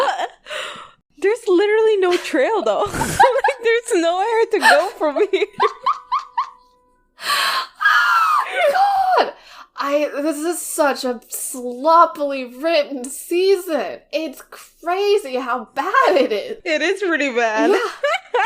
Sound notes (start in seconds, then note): 0.0 both laugh; 2.8 both laughing; 6.8 laughs; 17.6 laughing